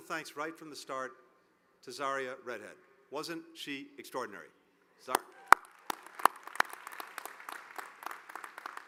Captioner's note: applause